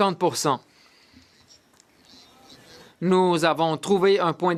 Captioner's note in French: voix de l'interprète